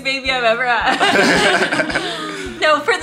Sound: group laughs

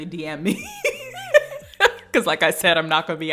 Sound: laughs

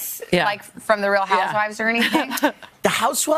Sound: laughter

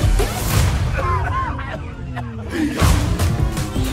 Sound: coughs; upbeat electronic music

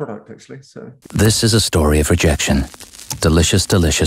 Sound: voiceover

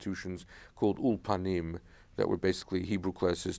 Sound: speaking in foreign language

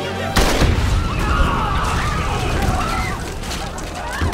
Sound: screaming / yelling

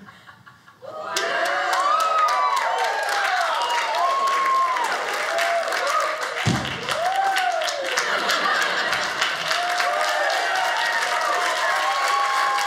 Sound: audience cheering

